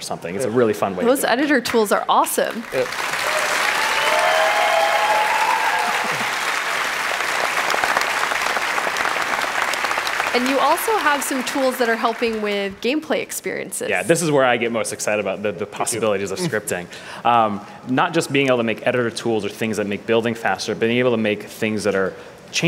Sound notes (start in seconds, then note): 8.7 cheering; 9.5 applause